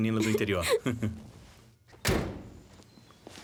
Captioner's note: door slams